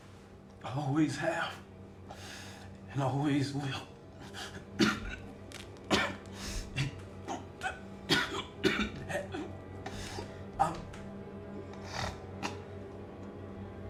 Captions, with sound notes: I always have and always will. [coughs, struggles to speak] And I'm...